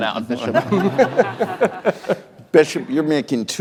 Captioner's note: laughter